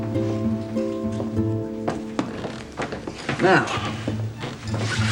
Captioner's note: none